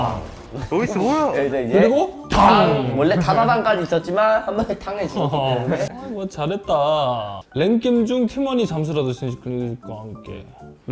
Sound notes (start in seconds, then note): 2.3 bang